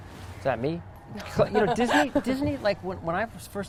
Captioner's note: laughs